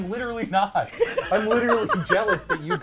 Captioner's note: laughs